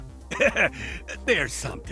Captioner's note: laughing